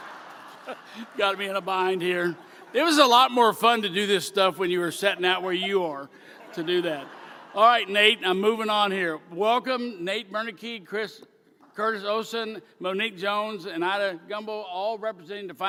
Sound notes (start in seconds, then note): 5.3 laughter